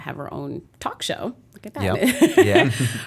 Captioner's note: laughter